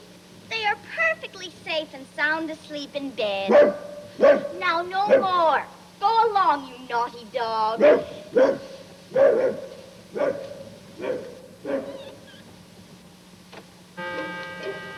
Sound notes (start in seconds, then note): 3.4 barking